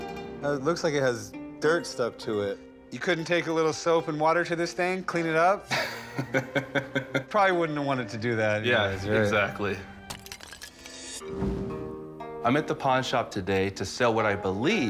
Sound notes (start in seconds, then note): 5.7 laughs; 10.1 clay shatters